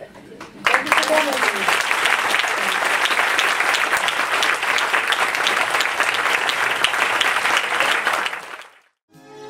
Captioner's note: audience Applauds